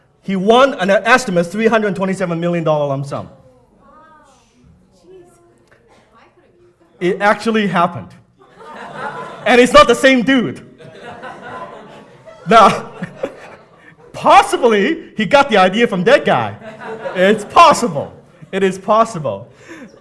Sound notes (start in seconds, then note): 10.2 audience laughing